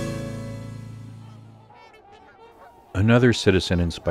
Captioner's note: swans honk